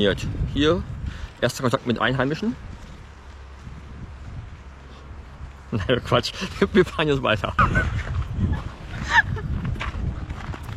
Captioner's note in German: lacht